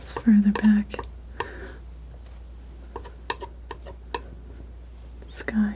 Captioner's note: scratching